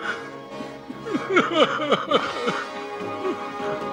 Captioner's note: sobbing